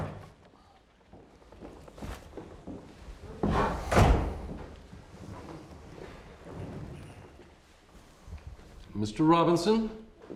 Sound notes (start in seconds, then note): 3.5 door slams